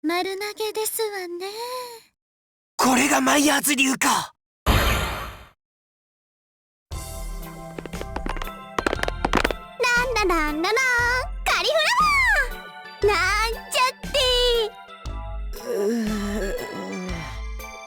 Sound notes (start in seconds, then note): 8.8 cheery humming; 15.6 groan